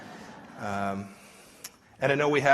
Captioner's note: laughter